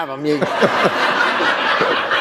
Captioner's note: laughter